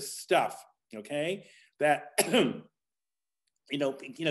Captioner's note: coughs